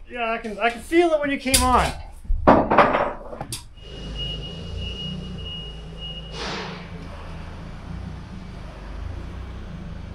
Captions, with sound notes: - Yeah, I can feel it when you came on. (forklift idling)